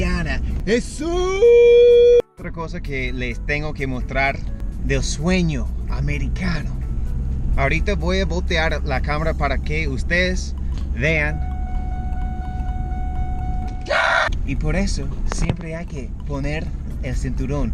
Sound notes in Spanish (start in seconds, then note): 0.3 grito; 11.2 alarma de seguridad del coche; 13.8 grito